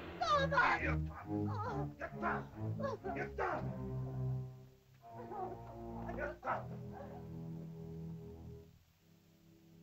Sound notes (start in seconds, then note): 0.7 Akhoba grunts; 1.9 Akhoba speaks angrily in caveman language; 4.7 ominous music; 6.0 Akhoba speaks angrily in caveman language